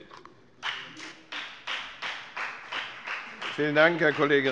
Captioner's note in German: Beifall bei der FDP